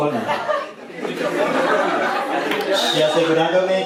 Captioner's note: laughing